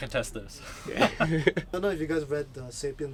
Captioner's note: both chuckling